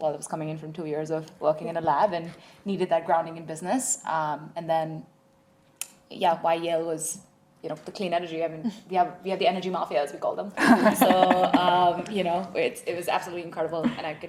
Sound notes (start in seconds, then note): 10.6 laughing